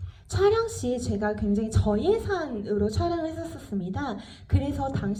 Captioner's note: speaks in foreign language